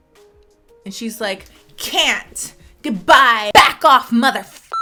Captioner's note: beep